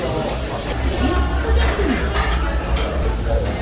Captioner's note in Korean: 포장 주문 알람 소리